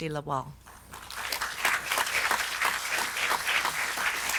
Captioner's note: audience clapping